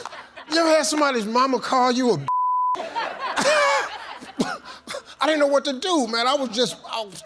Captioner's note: beep